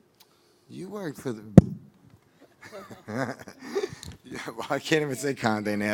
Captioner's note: laughing